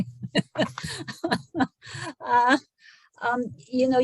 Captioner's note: chuckles